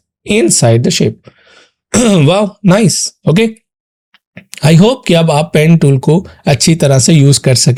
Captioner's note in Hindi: गला साफ़ करने की आवाज़